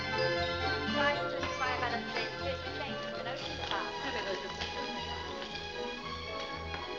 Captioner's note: upbeat music; indistinct conversation; upbeat music